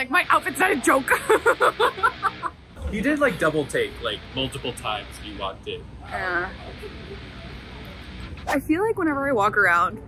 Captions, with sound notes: my outfit's not a joke! (laughs) - He did like double take, like multiple times when you walked in. - Yeah. I feel like whenever I walk around,